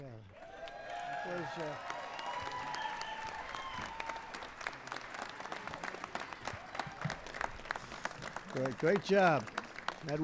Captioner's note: applause